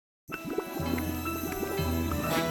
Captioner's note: quicksand bubbling